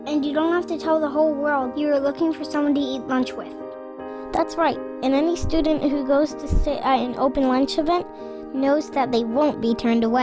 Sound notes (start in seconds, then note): none